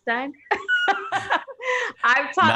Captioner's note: laughing